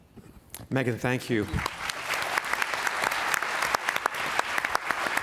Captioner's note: applause